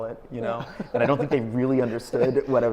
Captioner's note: laughing